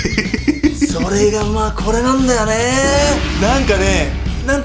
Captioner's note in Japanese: ジャーン音